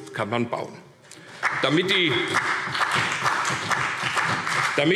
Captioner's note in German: Beifall CDU und BÜNDNIS 90/DIE GRÜNEN